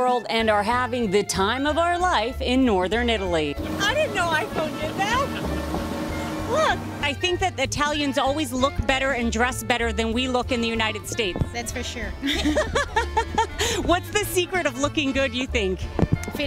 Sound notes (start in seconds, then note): 12.2 laughing